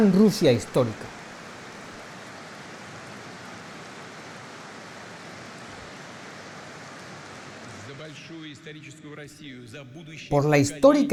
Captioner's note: applause